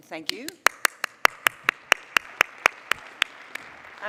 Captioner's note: applause